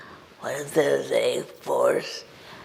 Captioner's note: none